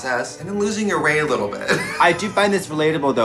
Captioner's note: laughs